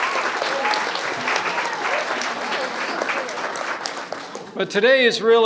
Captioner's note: applause